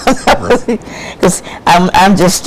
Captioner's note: laughs